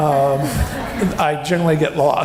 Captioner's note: laughing